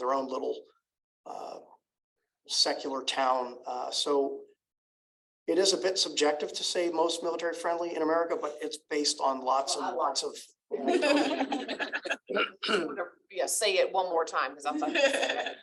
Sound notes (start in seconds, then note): 10.8 laughter